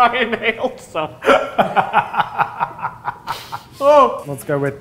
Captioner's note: laugh